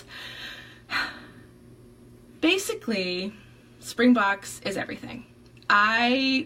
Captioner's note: sighs